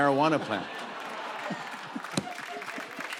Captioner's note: laughter